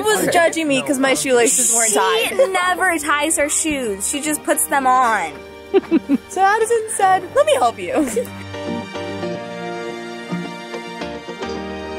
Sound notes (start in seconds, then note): 5.7 laughs; 8.7 upbeat music